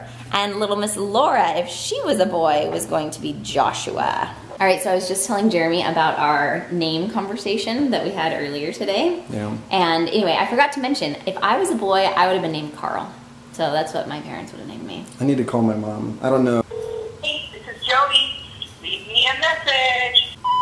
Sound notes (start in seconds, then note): 16.6 phone ringing; 20.4 beep